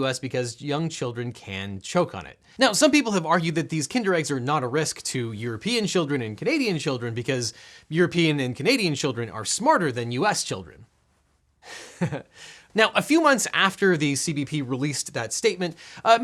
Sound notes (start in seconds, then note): 11.6 man giggling